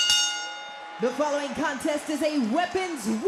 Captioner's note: bell rings